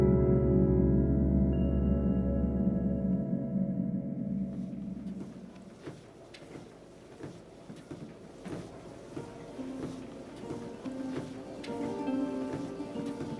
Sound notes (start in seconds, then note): 7.0 feet stepping; 9.2 inspirational music